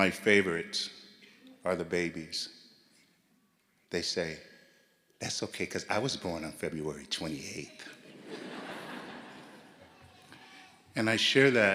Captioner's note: gasp